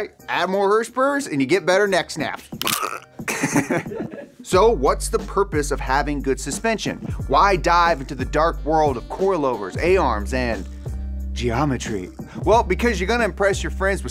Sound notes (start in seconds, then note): 3.3 laughs